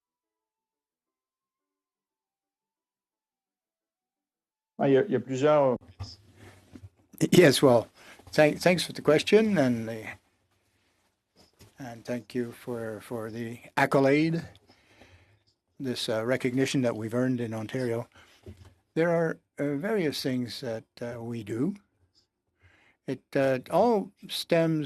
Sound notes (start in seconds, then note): 9.8 speaking in French